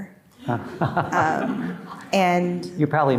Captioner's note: audience laughing